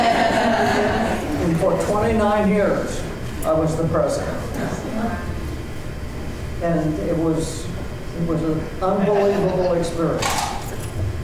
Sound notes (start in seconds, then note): 8.9 laughter